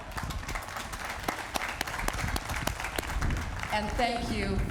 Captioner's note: applause